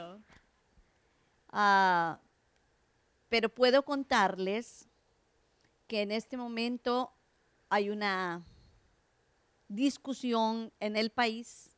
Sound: Spanish

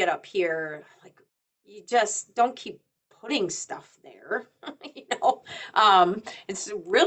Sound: chuckles

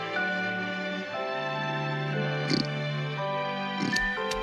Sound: oink

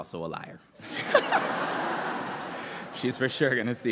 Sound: laughter

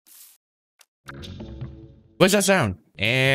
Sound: Ominous Hearts sound effect

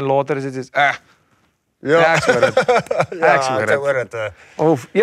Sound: laughs

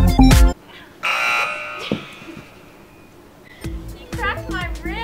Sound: buzzer

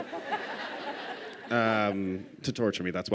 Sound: laughter

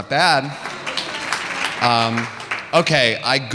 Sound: audience applauding

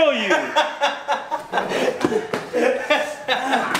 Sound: laughing

